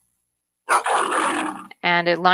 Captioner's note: lion growl